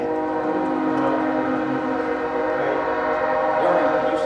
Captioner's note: train sound